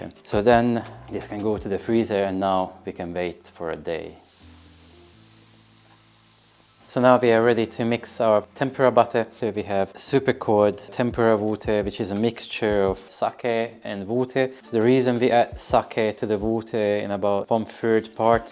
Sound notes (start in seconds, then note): 4.1 sizzling sound